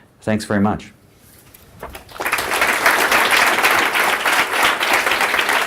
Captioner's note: applause